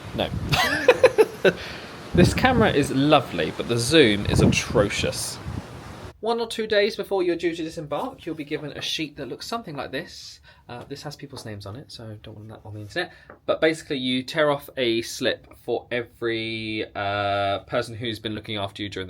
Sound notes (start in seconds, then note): 0.0 wind whipping; 0.4 laughs